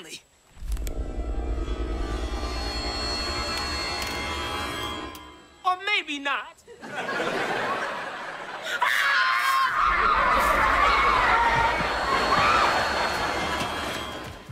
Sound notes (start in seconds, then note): 0.6 eerie music playing; 8.6 screaming